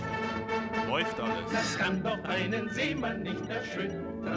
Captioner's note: speaking german